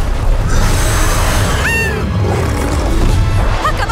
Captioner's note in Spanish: La hija grita